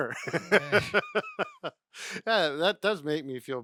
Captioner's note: laughing